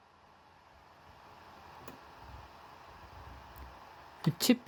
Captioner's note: laptop dvd drive spinning